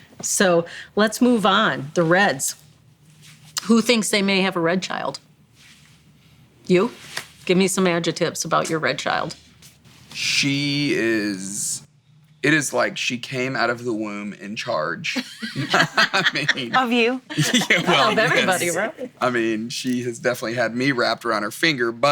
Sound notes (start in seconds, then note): 15.2 everyone laughing